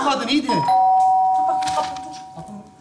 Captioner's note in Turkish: Zil çalar